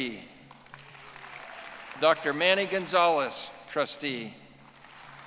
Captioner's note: audience applauding